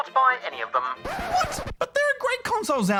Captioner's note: record scratches